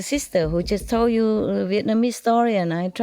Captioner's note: Vietnamese